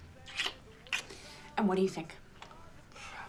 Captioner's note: kissing